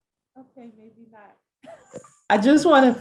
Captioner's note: chuckling